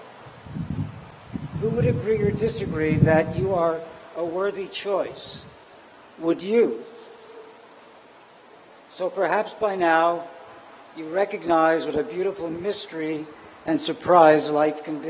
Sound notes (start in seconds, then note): none